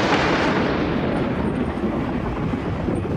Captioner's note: thunder